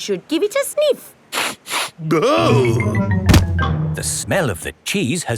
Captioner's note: sniffs and groans